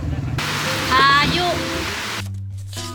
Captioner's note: the rain is falling heavily